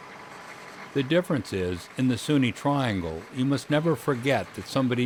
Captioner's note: voiceover